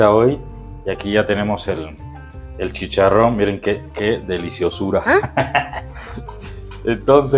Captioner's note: laughs